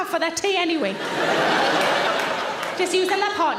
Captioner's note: audience laughing